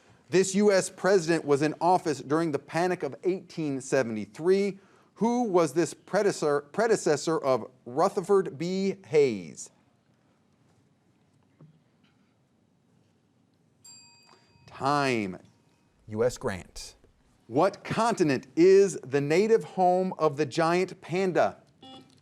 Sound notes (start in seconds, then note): 13.8 bell dings; 21.8 buzzer beeps